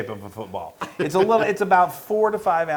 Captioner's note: laugh